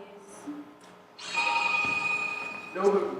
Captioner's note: chimes